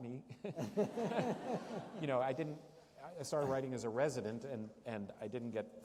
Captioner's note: laughter